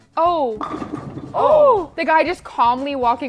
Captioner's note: gasps